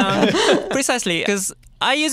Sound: laughter

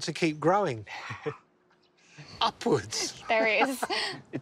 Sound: chuckles

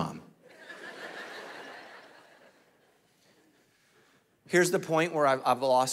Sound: congregation laughing

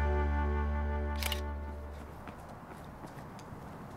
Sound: camera shutter clicks

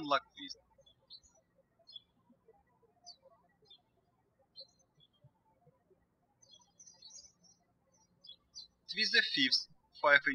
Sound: birds chirping

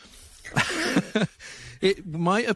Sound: laughs

